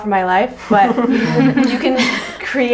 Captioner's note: group laughs